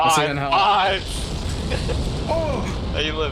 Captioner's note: laughs